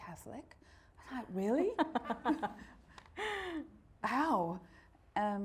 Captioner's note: laughing